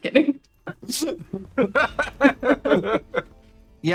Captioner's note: laughter